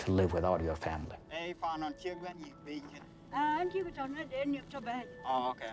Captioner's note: speaks foreign language